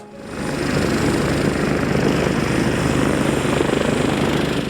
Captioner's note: helicopter engine roaring